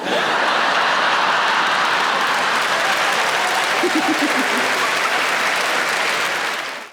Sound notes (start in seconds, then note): 0.0 audience laughing; 2.0 audience clapping